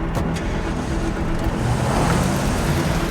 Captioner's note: engine starts; engine revs